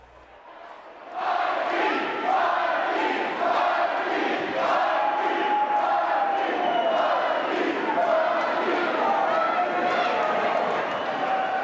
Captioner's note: crowd cheering